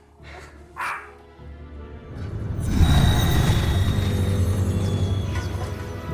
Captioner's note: shadowy orchestral music; dog barking